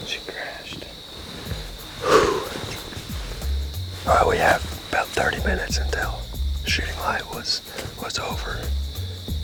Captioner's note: whispering